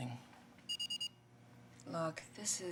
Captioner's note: beeping